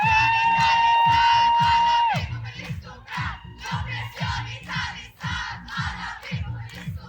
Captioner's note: protesters chanting in Maltese language